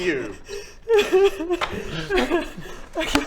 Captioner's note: weeps